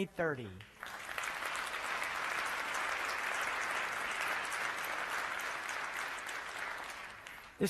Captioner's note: applause